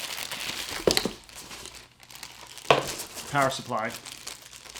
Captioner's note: plastic crinkling